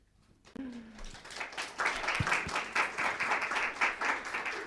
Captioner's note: audience applauding